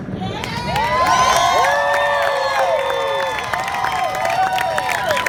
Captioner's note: crowd claps and cheers